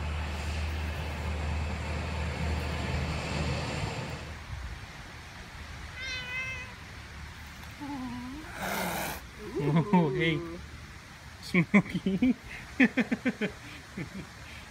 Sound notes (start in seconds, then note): 5.9 cat meows; 8.0 Cat hisses at Smokey; 12.6 laughs